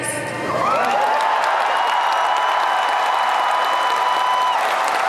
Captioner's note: crowd cheers